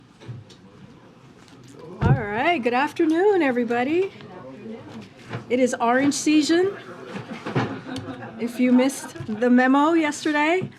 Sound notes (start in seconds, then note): 7.1 laughter